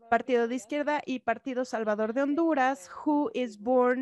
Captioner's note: speaks in a foreign language